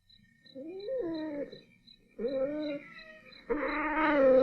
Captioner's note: anita growls